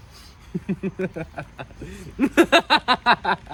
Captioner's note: he laughs menacingly